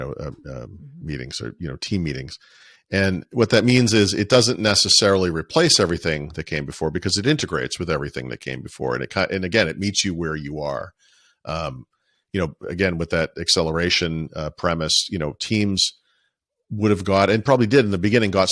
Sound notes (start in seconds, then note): none